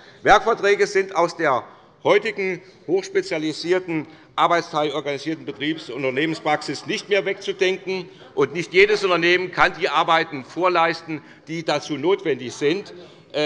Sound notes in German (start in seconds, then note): none